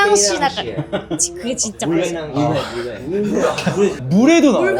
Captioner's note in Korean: 웃음